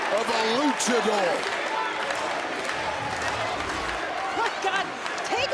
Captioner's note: crowd chants